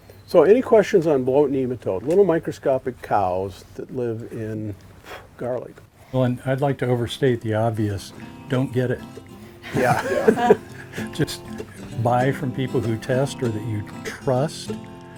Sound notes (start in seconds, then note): 9.7 all chuckle